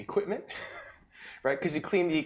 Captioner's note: laughs